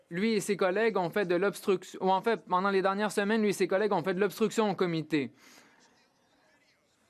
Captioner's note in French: voix de l'interprète